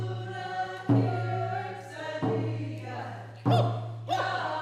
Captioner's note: chanting continues